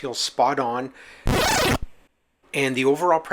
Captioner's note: tire ratchet gun